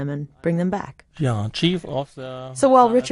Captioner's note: speaking German